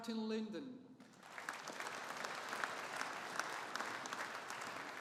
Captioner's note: audience applauding